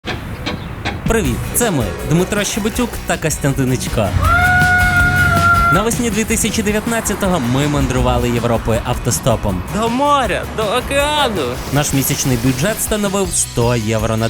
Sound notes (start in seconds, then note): 4.0 shouts